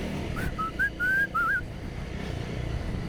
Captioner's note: whistles